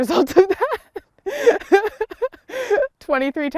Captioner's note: laughs